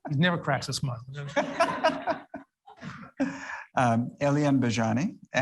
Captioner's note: audience laughs